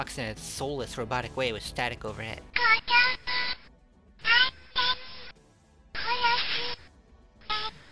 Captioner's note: penitent spirit doll talking